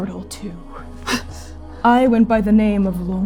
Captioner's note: exhaling sharply